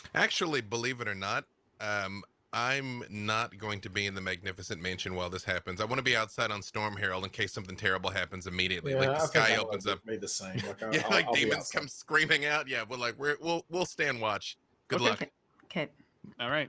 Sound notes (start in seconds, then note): 10.6 murmurs